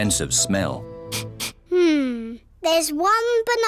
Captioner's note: sniffs